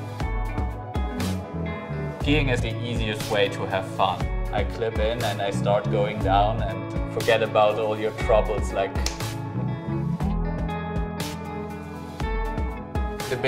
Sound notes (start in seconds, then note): 9.0 finger snapping